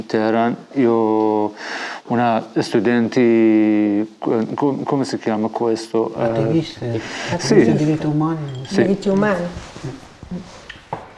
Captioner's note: chatter